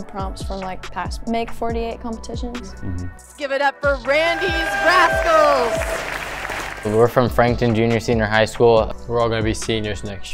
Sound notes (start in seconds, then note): 5.6 crowd applauding